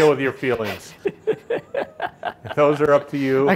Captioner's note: laughing